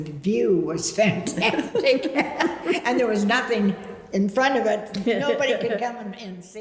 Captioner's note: laughs